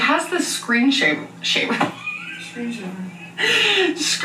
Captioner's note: laughing